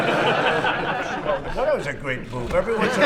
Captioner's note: laughter